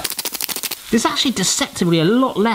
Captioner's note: pepper whirring